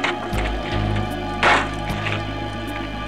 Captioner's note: trunk slam